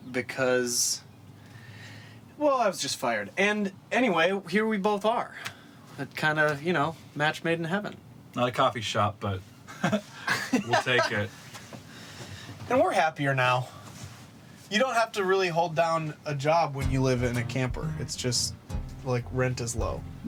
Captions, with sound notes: because, well, I was just fired. And anyway, here we both are. Kind of, you know, match made in heaven. - Not a coffee shop, but-(both laughing) - We'll take it. - And we're happier now. You don't have to really hold down a job when you live in a camper. It's just like, rent is low.